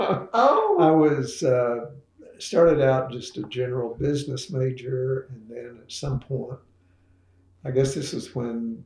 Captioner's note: laughs